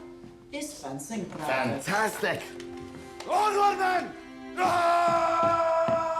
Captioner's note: screaming